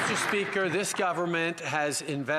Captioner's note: some Applause